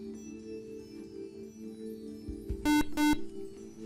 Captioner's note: buzzer